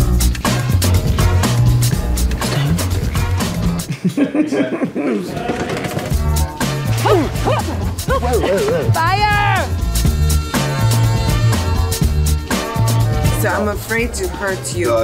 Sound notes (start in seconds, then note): 0.0 funk music continues; 3.8 Gal laughs; 6.5 funk music continues; 6.9 actors grunting; 9.9 funk music continues